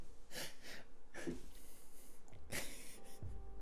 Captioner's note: confused laugh